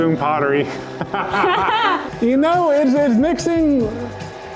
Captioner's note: laugh